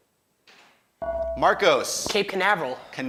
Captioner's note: ding